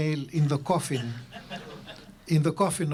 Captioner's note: laughter